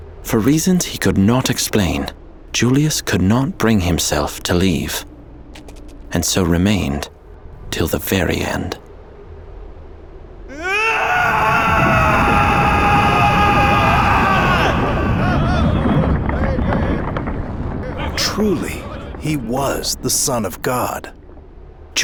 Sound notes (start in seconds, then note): 10.5 Jesus screaming; 10.7 ground rumbling; 15.6 crowd murmuring in alarm